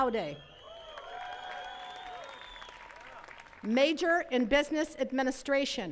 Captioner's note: attendees cheering and clapping